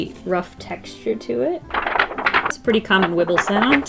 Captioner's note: paper wobble